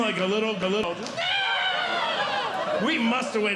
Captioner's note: screams